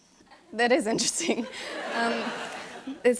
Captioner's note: laughter